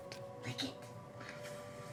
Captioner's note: whispering